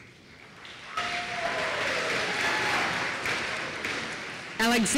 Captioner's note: applause